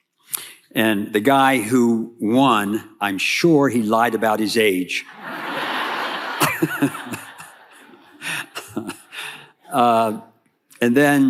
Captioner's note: chuckling